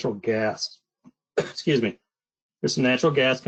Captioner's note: coughs